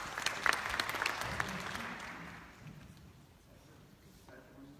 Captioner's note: applause